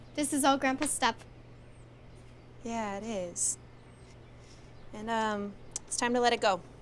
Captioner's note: none